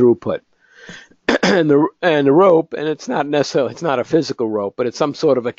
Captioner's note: cough